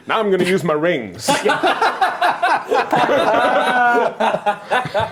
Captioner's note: laughing